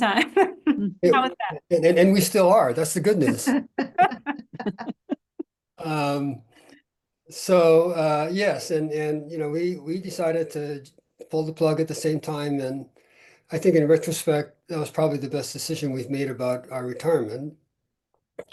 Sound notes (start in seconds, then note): 0.1 chuckles; 3.0 laughter